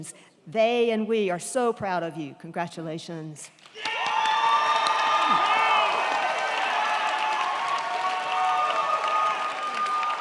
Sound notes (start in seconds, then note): 3.6 crowd clapping; 3.7 crowd cheering